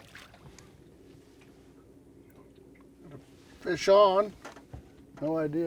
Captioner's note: fish splashing